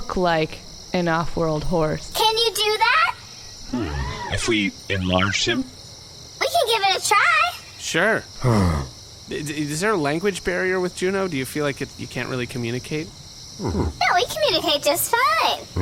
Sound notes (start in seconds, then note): 8.4 Juno neighs